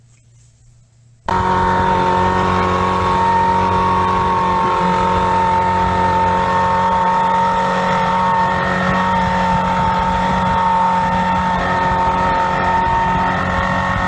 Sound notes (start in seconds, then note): 1.2 whirring